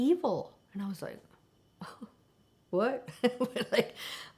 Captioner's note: chuckles